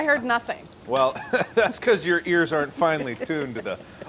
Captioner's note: laughs